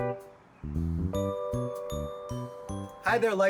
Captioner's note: birds chirp